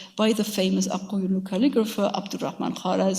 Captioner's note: speaks in a foreign language